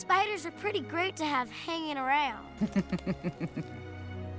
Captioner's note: charlotte chuckling